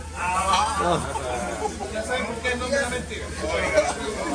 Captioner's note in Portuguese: risos